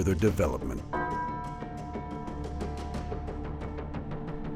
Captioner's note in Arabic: يرن الجرس